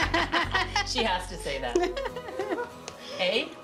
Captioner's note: laughter